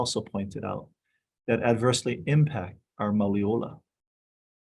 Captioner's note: speaking in foreign language